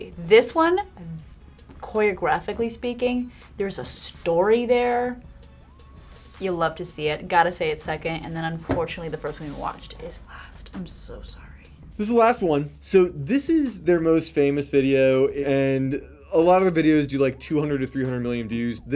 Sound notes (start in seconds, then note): 10.0 whispers